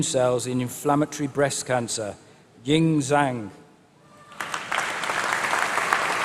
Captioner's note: applause